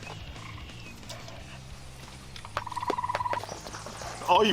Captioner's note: rock music; birds chirping